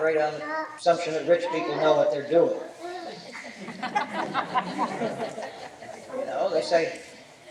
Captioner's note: laughter